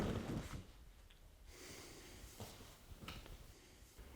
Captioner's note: exhales